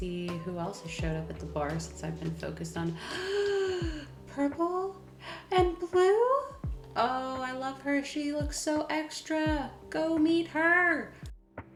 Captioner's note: gasp